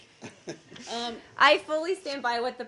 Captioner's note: laughter